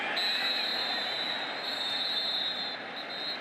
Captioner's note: whistle